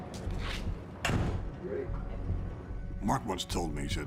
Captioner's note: dramatic music; door thuds